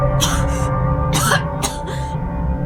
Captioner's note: Tiffany coughing